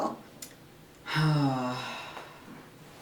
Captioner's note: sighs